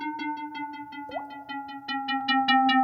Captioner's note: silbidos ululantes; gota de agua; silbidos ululantes